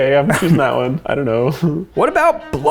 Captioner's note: giggles